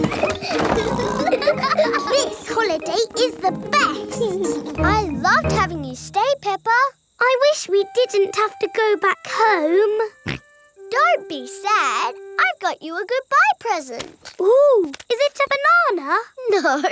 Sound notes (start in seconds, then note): 0.0 laughing and snorting; 10.2 snorts